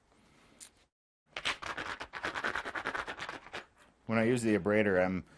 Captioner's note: knapping